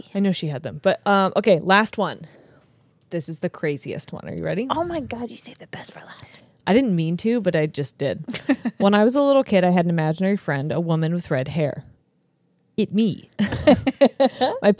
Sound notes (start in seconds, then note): 8.3 laughs; 13.4 laugh